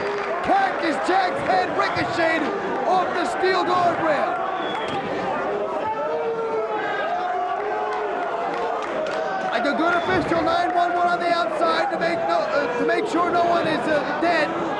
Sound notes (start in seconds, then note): 0.0 spectators applauding; 4.5 spectators chanting "Sabu!"; 7.8 spectators cheering and applauding